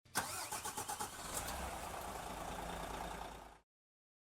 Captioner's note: coach engine revving